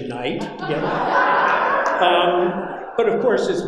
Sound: audience laughing

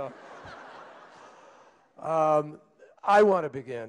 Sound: laughter

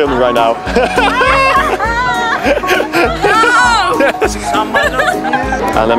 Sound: laughing

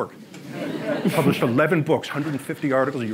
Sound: audience laughs

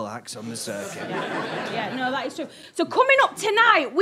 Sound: audience laughter

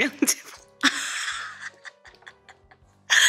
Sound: laughing

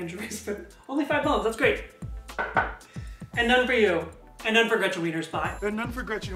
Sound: knocks on wood

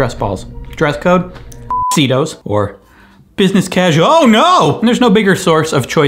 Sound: beep

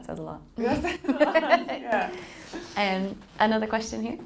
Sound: laughing

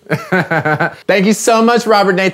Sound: laughs

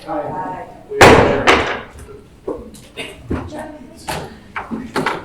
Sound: gavel banging

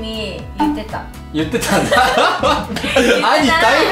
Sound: laughs

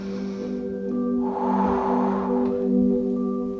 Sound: breathes

